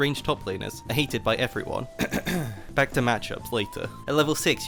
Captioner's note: cough